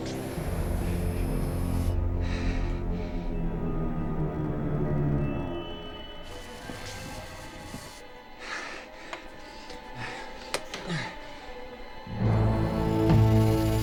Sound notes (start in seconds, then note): 0.0 eyes buzzing; 2.3 Hugh breathing heavily; 4.3 deep suspenseful music; 6.3 electricity crackling; 8.5 Hugh breathing heavily; 10.9 Hugh grunting